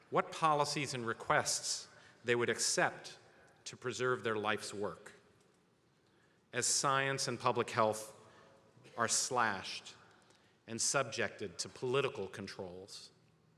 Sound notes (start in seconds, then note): none